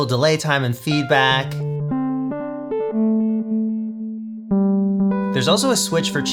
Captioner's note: pleasant beep boops